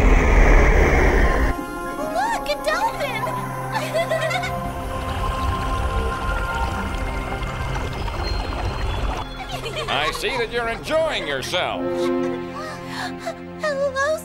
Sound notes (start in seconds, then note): 3.7 giggles; 3.7 giggle